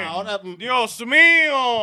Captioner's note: speaking In Foreign Language